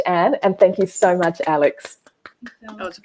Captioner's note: clapping